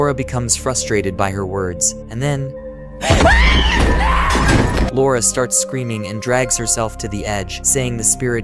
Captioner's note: screaming